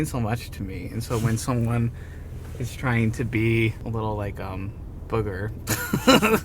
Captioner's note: both laughing